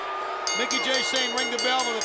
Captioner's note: crowd yelling; bell dinging